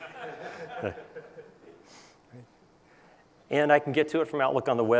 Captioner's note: laugh